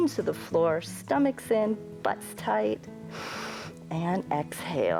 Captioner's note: inhales